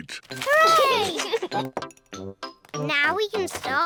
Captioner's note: giggles